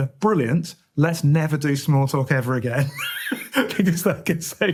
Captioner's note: laughs